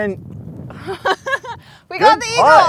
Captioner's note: laughs